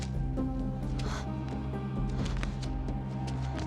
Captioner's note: panting